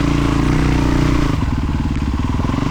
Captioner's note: engine revving